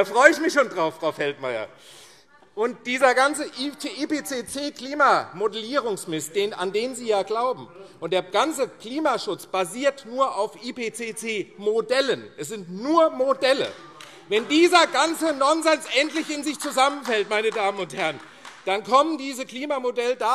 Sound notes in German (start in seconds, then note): 13.5 Beifall AfD - Zurufe